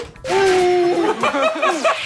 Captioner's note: huft!!!